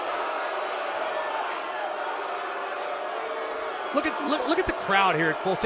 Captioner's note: cheers & boos